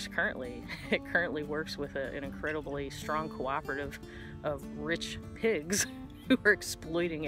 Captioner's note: chuckle